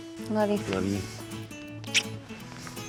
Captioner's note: smooch